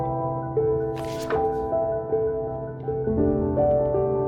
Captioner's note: reflective music; page turning